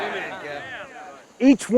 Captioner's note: men cheer